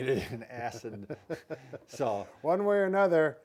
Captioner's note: laughter